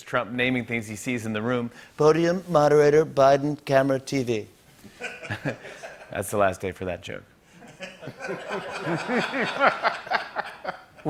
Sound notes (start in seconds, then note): 1.8 As Trump; 4.9 laughter; 7.7 laughter intensifies